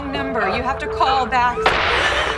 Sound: gunshot

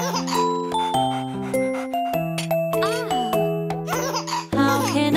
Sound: dog panting

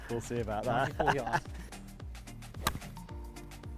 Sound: laughter

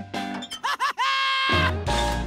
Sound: laughing

